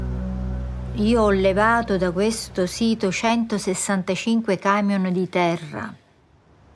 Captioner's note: speaks in foreign language